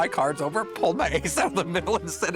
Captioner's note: laughing